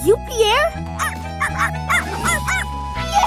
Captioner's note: barking